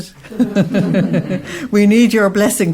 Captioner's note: audience laughs